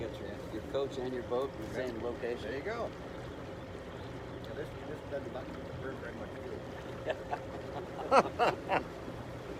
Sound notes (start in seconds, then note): 4.6 background chatter; 7.0 laughter